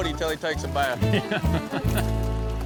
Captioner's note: laughs; laughter